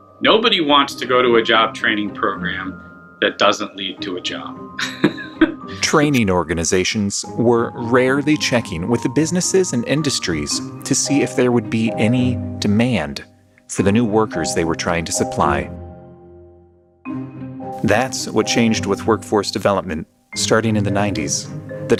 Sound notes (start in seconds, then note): 4.8 chuckling